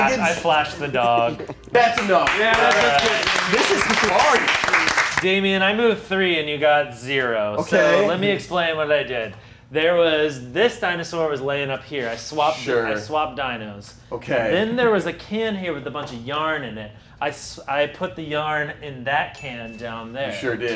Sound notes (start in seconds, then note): 1.6 movers clapping